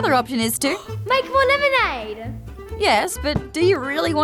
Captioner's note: gasps